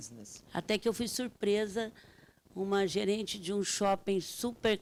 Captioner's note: speaking Portuguese